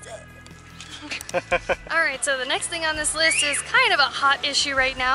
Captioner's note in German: Gelächter